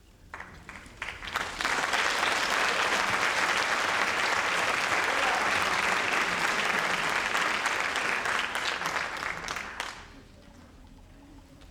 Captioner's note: audience applause